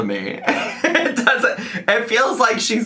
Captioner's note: laughs